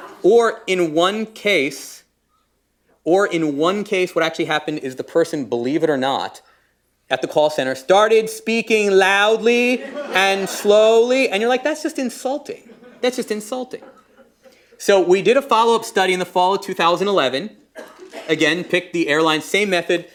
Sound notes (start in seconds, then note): 9.7 laughter